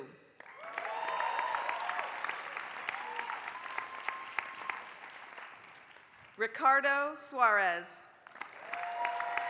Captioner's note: applause; applause